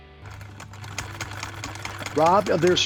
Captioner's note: sewing machine hums